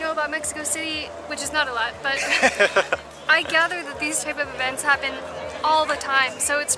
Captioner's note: laughs